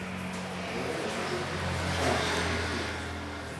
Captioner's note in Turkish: Uzakta araba sesi